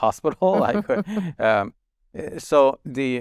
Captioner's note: chuckling